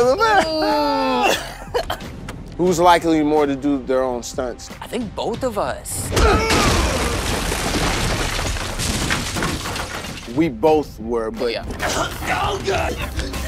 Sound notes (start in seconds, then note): 0.0 laughing; 6.1 wall crashing